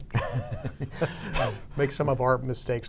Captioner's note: both chuckle